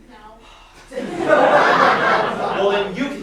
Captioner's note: laughter